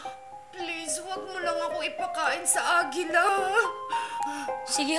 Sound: sobbing

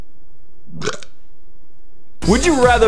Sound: goblin Burp

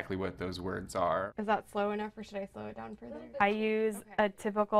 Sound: people talking in the room

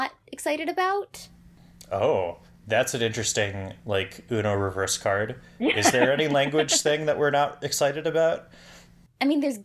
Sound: laughs

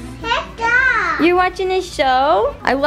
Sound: babbles

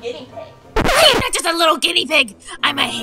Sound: record scratching

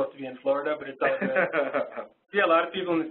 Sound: laughs

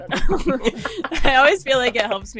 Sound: group laughing

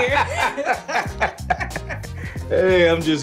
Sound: laughter

